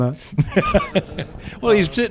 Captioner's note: laughter